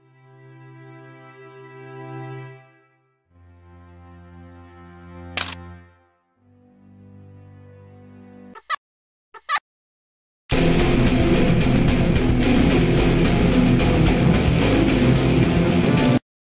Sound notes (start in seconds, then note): 5.4 click; 9.3 BB laughing; 10.5 rock music